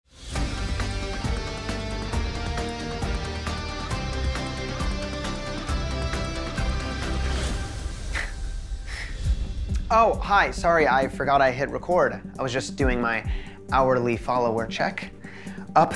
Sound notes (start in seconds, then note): 0.0 breaking news music; 8.5 laughs